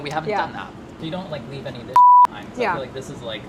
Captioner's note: beeping